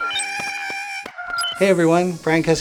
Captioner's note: screech